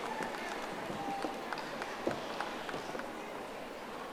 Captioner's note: audience applauding